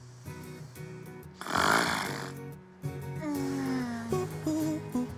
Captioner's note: Maria continues snoring